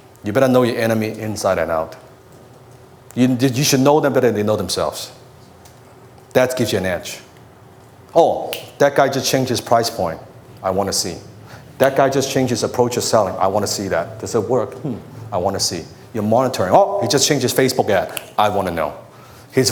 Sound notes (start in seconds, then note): 18.0 snaps his finger